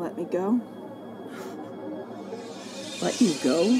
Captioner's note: Reese scoffs